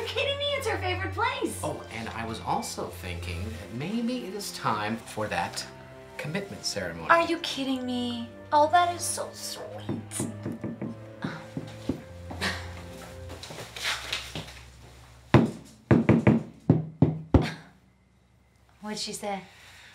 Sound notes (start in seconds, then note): 9.4 upstairs knocks rhythmically; 11.2 Julie grunts; 15.3 broom knocks rhythmically